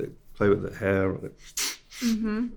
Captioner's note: sniffing